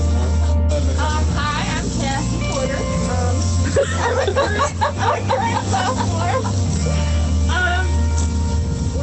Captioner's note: laughter